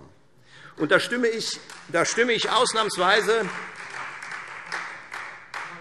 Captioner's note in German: Beifall Freie Demokraten und vereinzelt SPD